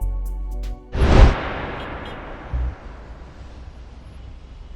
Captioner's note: wind whooshing